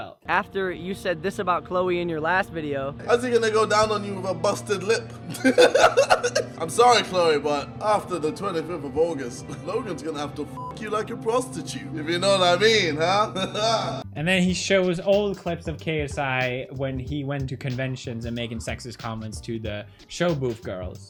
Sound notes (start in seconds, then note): 5.2 ultimate laugh; 12.8 maniacal laughter